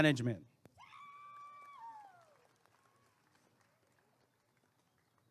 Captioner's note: applause and cheering